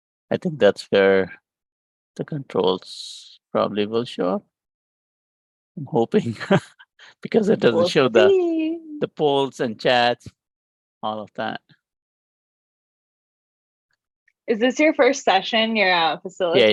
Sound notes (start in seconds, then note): 7.2 laughs